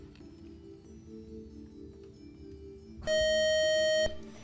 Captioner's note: buzzing